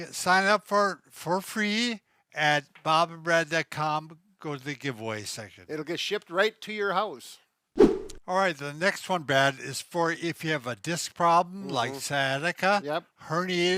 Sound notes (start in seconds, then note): 7.8 air whooshing